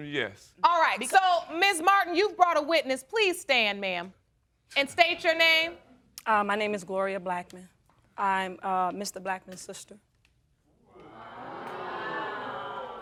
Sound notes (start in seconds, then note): 11.0 audience exclaiming